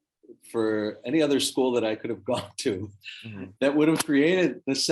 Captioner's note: chuckles